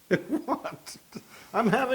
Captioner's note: laugh